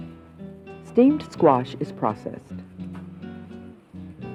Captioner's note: voiceover